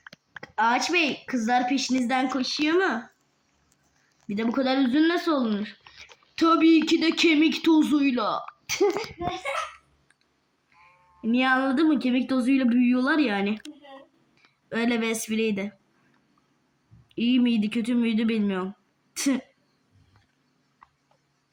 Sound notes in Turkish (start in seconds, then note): 8.7 kahkaha